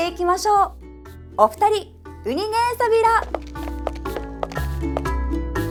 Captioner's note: in Okinawan